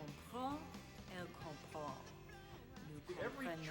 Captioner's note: speaking in foreign language